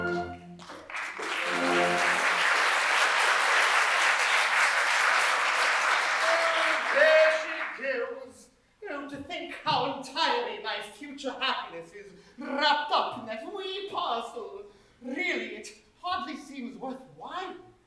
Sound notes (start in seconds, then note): 0.5 applause